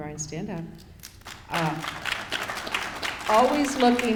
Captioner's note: applause